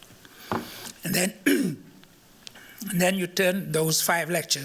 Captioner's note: clears throat